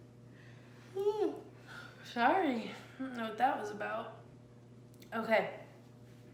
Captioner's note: yawns